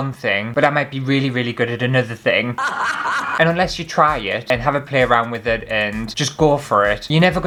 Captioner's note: laughter